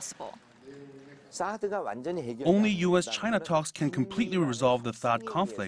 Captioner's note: Korean